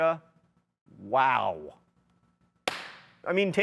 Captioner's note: party popper popping